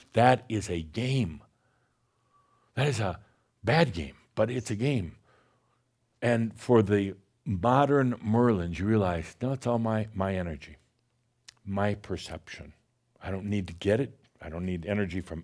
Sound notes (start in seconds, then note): none